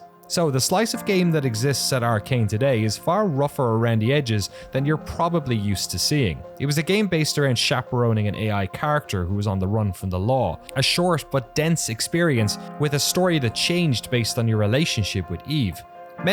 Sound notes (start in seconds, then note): none